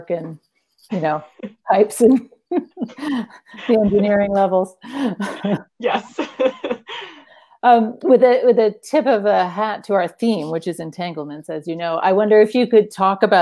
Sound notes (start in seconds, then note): 2.5 laughs